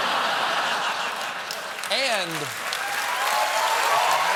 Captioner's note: laughter; cheers